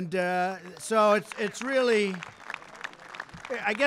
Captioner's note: applause